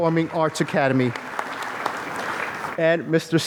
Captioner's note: applause